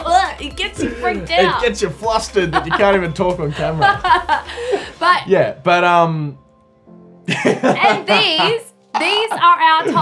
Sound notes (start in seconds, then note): 2.4 laughter